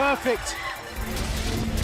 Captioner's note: bell ringing